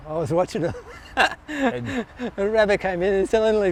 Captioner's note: laughs